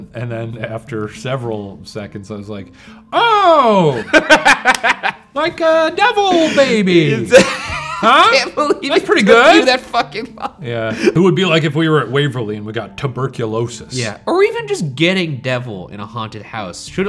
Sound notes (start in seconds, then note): 6.3 laughing; 6.3 laughs